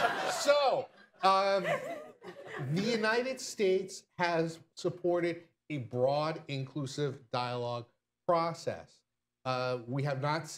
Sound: laughter

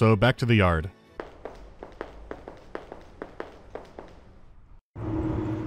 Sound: frenetic galloping

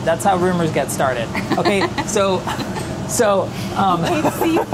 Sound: laughs

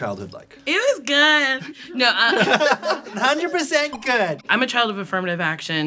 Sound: laughter

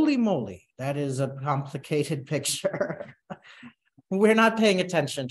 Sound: chuckles

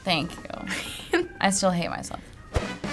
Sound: laughs; funk music

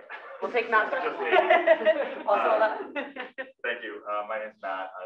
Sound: laugh

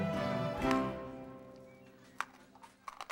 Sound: loud crunching

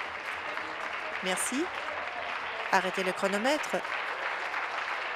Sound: applause

